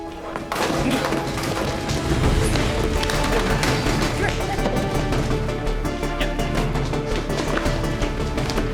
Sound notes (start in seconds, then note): 0.0 clattering; 2.3 intense music